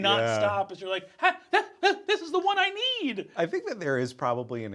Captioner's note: whimpers